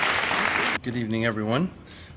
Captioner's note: applause